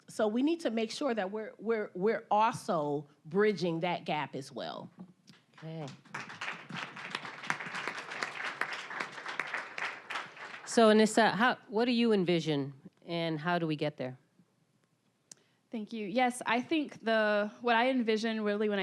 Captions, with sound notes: So we need to make sure that we're also bridging that gap as well. (applause) >> So Anissa, what do you envision and how do we get there? >> Thank you, yes, I think what I envision really